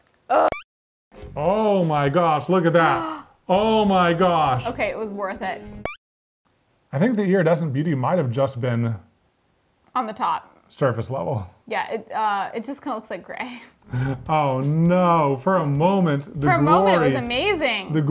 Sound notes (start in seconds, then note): 2.8 gasps